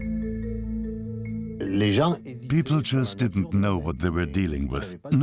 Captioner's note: French dubbed into English